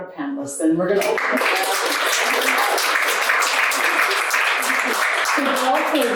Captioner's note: audience applauding